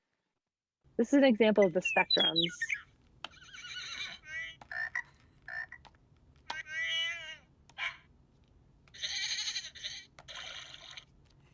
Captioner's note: bird chirp, frog ribbit